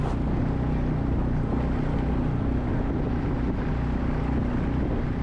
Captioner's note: boat motor humming